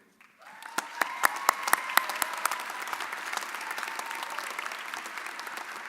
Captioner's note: audience cheering and applauding